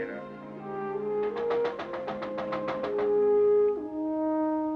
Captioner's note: knocking Continues